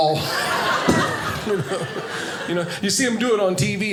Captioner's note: audience laughing